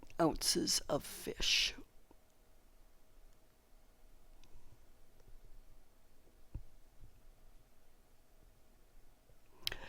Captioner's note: pause